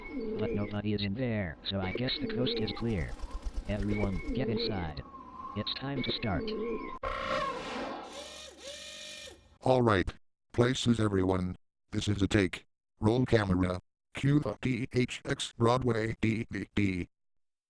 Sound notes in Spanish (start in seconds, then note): 8.0 ruidos de perforación